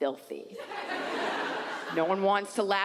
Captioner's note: audience laughs